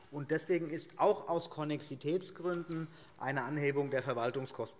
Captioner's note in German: none